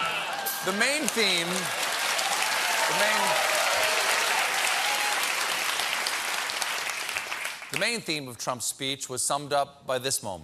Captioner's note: applause